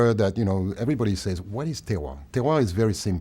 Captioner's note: speaking french